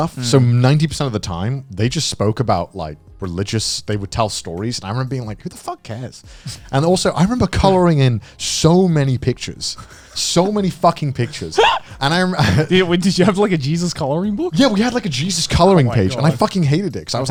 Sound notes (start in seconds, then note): 11.3 chuckling